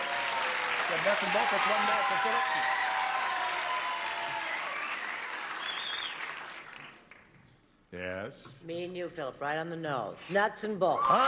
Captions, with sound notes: [CLAPPING] NUTS AND BOLTS ARE COMING BACK FOR PHILLIP. [CHEERING] [CLAPPING] [WHISTLING] YES. ME AND YOU, PHILLIP, RIGHT ON THE NOSE. NUTS AND BOLTS. [BEEPING]